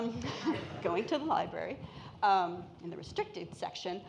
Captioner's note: laughs